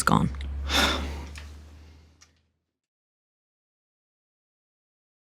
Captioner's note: sighs